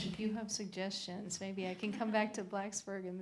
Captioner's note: laughter